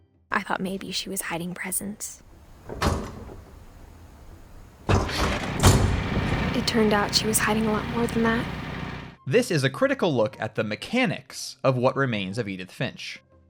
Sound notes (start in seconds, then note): 2.4 second clunking noise; 2.4 clunking noise of a latch